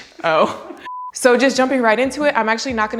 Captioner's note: beep